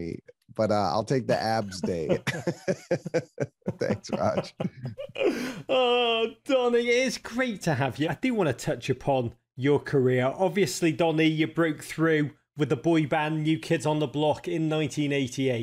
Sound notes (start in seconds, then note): 1.4 laughs